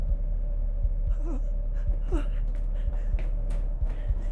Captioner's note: Sue whimpering